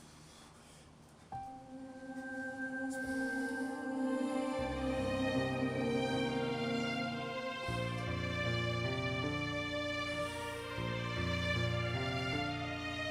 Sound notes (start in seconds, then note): 0.0 breathing heavily; 1.3 unsettling music playing